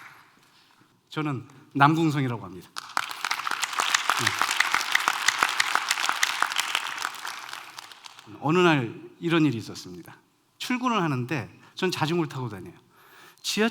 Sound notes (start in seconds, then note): 2.6 applause